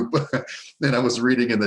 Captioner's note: laughing